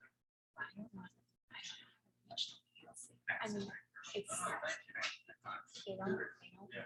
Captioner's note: people chattering indistinctly continues